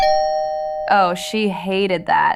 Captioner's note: SFX: Door + Chime